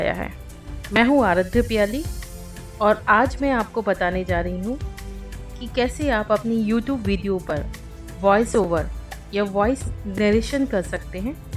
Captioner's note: playing Voice Recording